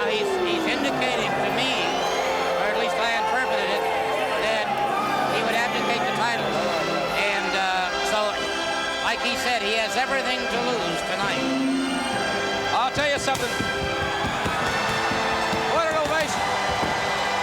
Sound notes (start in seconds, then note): 14.5 audience cheering; 14.5 fireworks popping